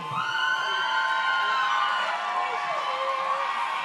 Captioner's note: audience cheers